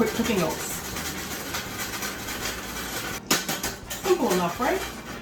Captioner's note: sieve grinding